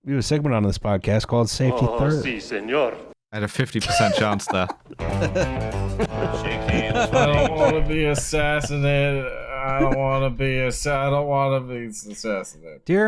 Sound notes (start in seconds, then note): 3.8 laughs; 5.0 ♫ twangy guitar riff ♫